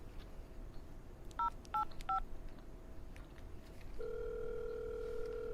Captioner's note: phone beeping